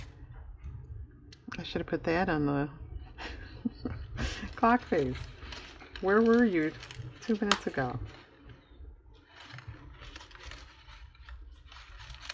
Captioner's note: laughs